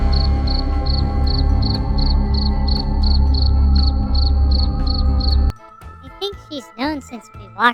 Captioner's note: slowly turning to face the desk, voice barely holding steady